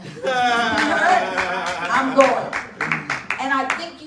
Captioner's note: audience laughing and clapping